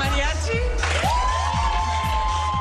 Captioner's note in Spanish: aplausos